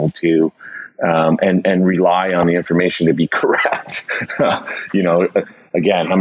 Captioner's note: laughs